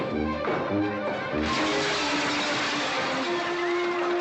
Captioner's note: dramatic chase music; window breaking